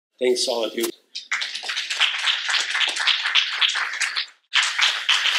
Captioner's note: applause